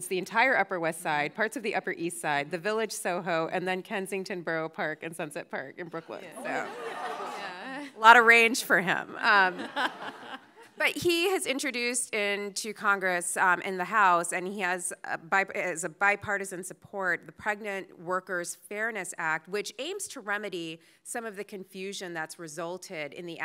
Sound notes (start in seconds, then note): 9.4 audience laughing